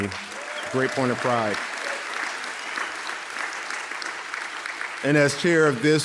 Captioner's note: audience applauding